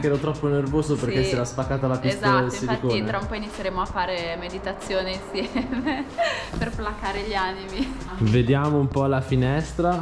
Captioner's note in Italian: Risate